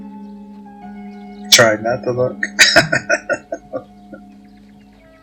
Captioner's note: laughing